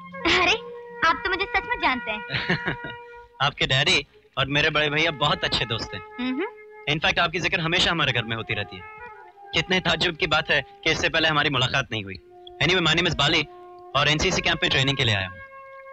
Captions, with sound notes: You really know me. [Laughing] My brother and your father are good friends. In fact, your name is always mentioned in our house. It's quite strange that we never met. Anyway, my name is Bali and I have come here for the NCC camp.